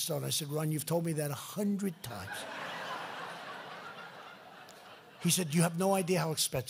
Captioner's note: laughter